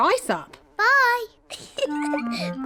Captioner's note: giggles